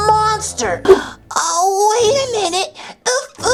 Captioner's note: gasps